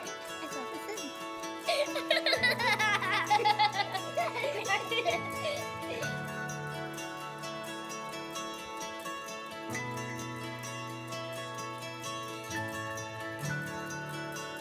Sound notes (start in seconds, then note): 1.5 girl laughing; 3.6 children laughing; 9.8 upbeat music